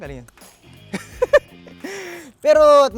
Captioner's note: laughs